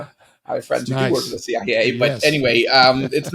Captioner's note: chuckling